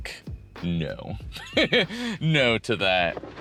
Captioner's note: laughs